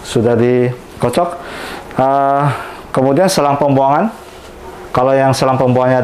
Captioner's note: inhale